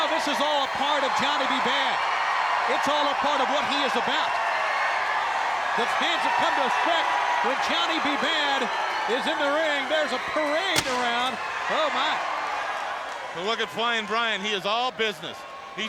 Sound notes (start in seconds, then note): 4.6 crowd cheering; 10.6 fireworks booming